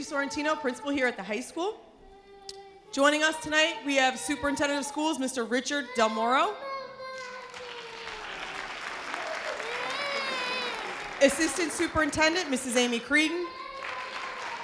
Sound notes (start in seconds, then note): 7.2 audience applause